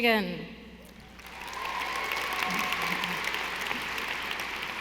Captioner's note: audience applauding